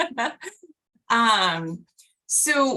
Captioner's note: laughter